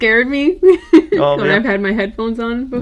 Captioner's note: giggles